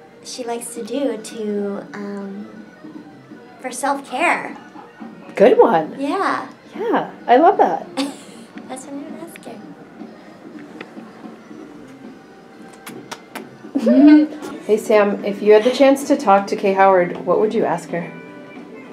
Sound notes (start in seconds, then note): 7.8 laughing; 12.6 kissing noises